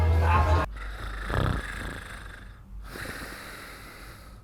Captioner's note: snoring